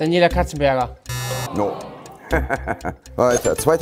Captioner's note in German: Lachen